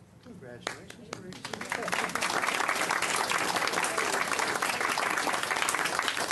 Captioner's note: clapping